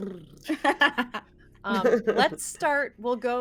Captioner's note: everyone laughs